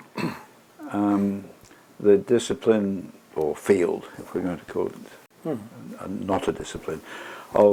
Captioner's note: cough